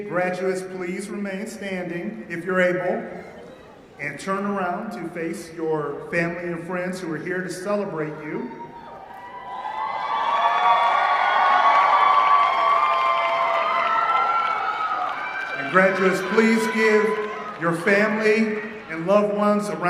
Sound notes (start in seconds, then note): 8.6 cheering